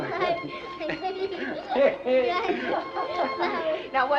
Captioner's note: laughing